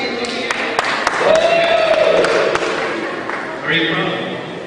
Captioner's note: cheering